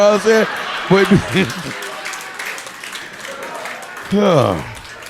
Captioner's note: audience laughing